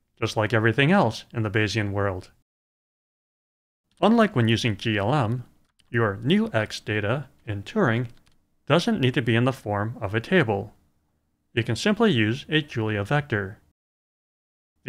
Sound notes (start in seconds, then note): none